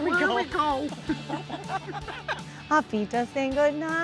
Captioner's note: laugh